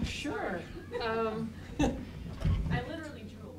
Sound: laughter

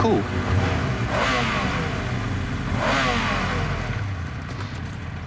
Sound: engine revs

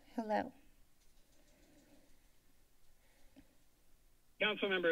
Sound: silence

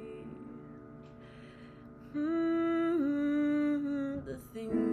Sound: humming

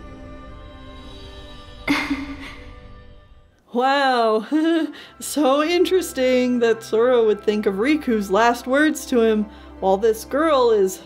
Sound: chuckle

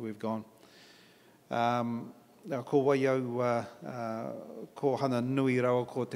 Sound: in Maori

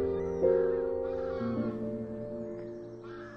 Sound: geese honking

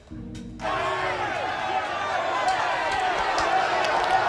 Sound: indistinct shouting

